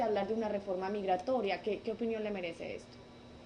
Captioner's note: in Spanish